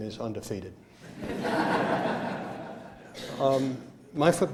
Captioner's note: laughter